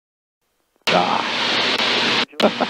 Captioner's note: radio static; chuckling